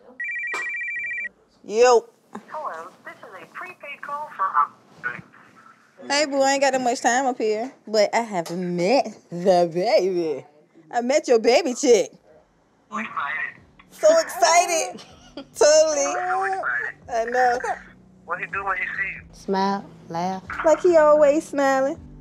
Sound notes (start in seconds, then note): 0.1 phone ringing; 2.7 automated Voice